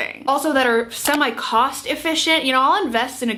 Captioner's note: mouse clicking